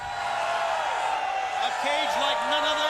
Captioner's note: crowd cheering